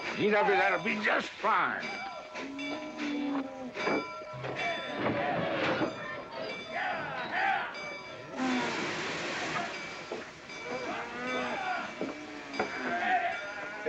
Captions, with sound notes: - GW, that'd be just fine. (station bell ringing) (men yelling at cattle) (cattle noises)